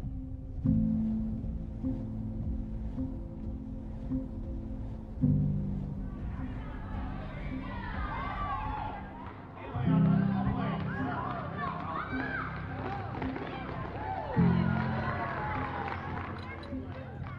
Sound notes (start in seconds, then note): 0.1 inspiring music; 8.7 crowd cheering